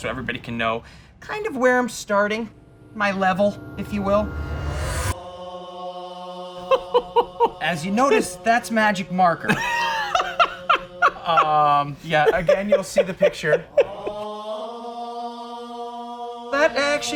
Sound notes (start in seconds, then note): 5.0 gregorian chant; 6.6 laughs; 9.4 laughs; 13.7 gregorian chant